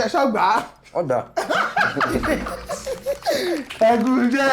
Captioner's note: everyone laughs